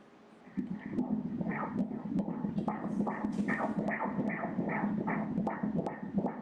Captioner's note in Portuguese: batimentos cardíacos